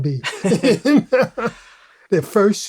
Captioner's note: laughter